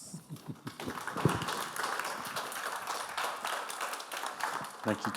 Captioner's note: audience applauding